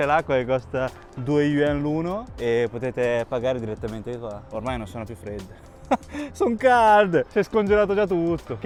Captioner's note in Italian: risate